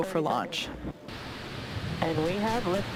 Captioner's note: rocket engine rumbling